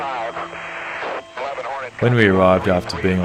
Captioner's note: voiceover